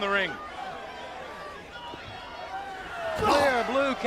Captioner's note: crowd chatter